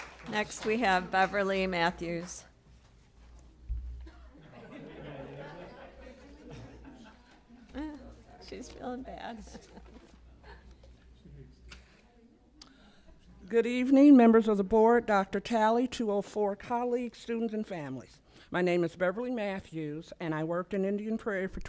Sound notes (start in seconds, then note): 0.0 applause; 4.0 laughter